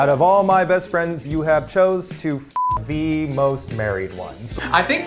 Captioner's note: beep